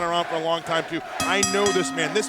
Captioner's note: bell ringing